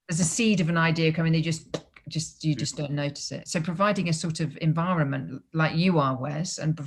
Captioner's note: pop